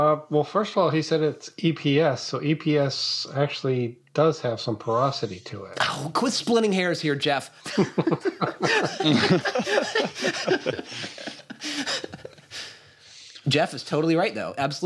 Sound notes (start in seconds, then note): 7.6 laughter